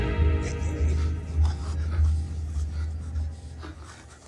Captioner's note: Man wheezing